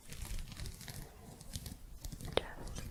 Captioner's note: gentle scratching